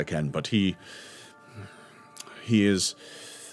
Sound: sighs

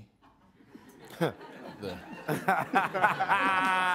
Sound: all laughing

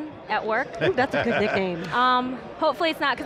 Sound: laughs

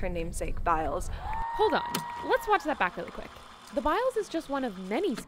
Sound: tape rewind

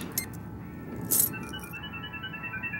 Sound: beeping; beep

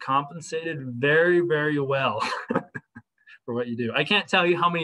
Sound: laughter

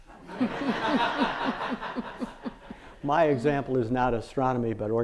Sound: audience laughing

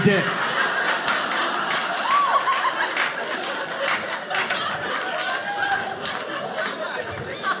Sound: audience laughing

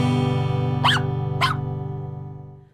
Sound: dog barking

